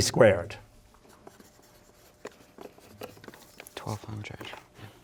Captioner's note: pencils scribbling